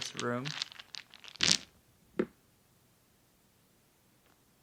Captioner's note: dice splatting